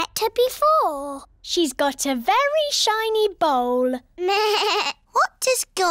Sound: bleats

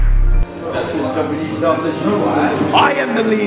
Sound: chatter

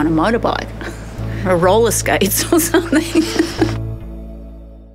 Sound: laughing

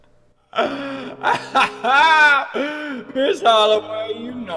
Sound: laughs

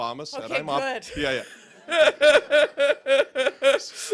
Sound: laughter

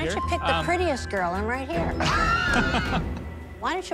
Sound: laughs

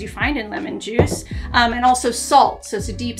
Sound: container clattering

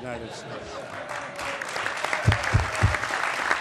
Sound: laughter; applause

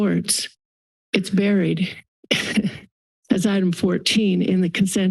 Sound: chuckles

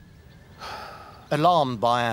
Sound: Themistocles sighs

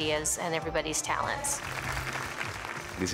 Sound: applause

